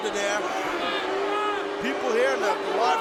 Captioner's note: audience booing